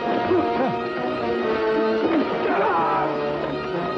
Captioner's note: yells